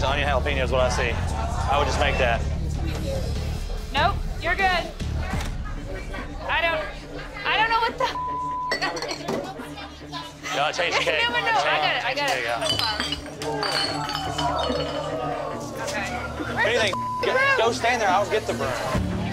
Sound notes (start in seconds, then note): 8.3 laughs; 12.2 bottles breaking; 13.6 shouting